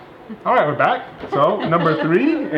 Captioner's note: laughing